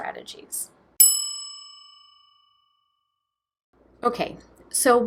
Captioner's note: bell dinging